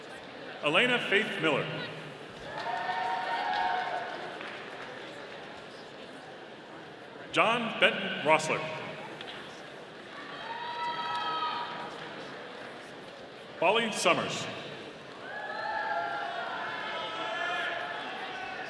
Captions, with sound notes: Alana Faith Miller. (audience applauding) John Benton Roesler. (audience cheering) Bali Summers. (audience cheering)